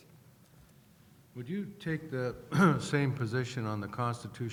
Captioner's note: voiceover